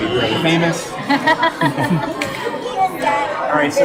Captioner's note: laugh